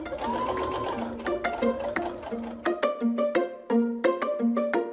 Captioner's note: sewing machine hums; playful music